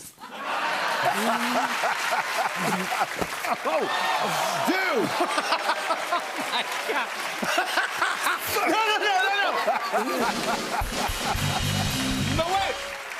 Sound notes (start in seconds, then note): 0.2 laughter; 4.8 laughing; 9.7 laughing